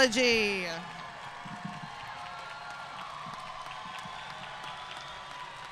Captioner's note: audience cheering and applauding